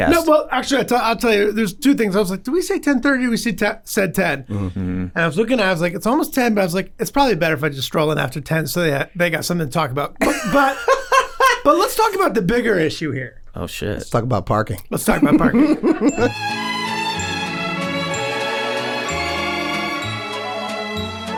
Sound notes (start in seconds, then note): 10.2 Rob chuckling; 15.1 all chuckling